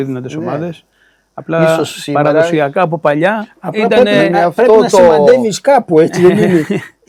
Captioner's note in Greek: γέλια